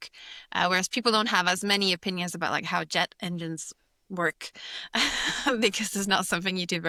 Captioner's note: laughs